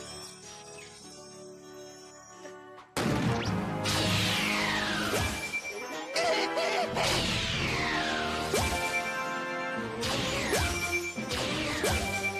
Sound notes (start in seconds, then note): 5.9 laughs maniacally